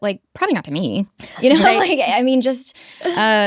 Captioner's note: both laughing